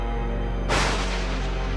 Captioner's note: thunder